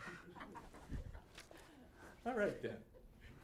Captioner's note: audience laughing